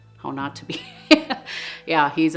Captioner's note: laughs